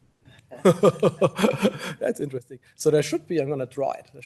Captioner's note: laughs